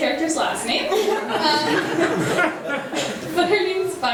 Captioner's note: attendees laughing